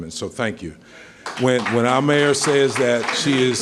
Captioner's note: applause